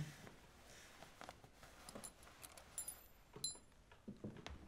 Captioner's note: key clinking